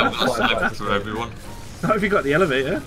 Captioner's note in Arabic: ضحك